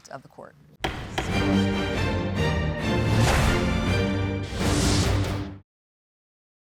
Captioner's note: gavel banging; classical music